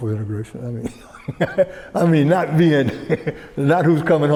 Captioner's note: laughs